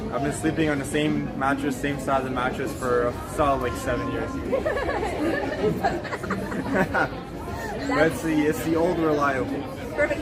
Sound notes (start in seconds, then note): 4.4 both laugh